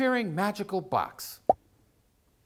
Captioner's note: pop!